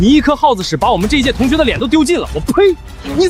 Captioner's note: spits